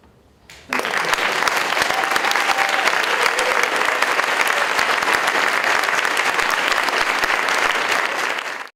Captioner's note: audience Applauding